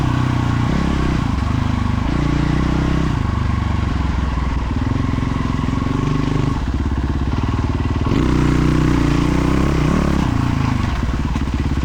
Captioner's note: engine revving